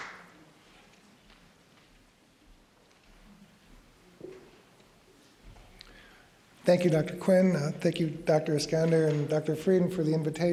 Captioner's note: applause